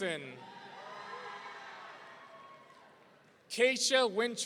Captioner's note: audience cheering